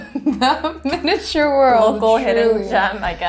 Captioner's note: chuckles